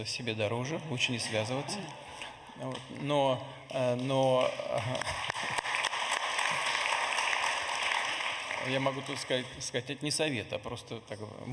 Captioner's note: laughter in the audience